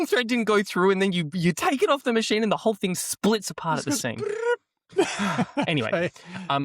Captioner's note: laughter